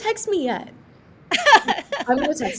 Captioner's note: laughing